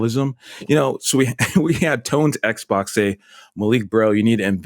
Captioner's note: chuckles